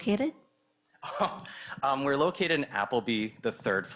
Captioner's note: laughs